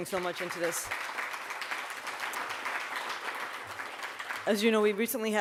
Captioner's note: audience applauds